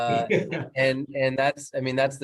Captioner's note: laughs